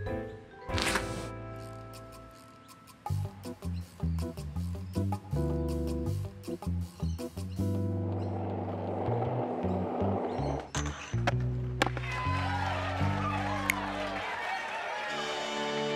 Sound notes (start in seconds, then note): 11.9 cheers and applause